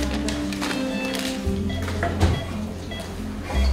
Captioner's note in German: Piepen